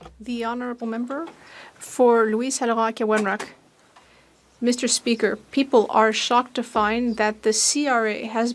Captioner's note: speaking French